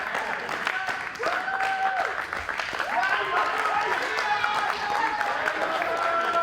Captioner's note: cheerleaders cheering and clapping